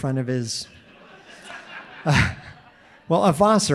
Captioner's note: audience laughing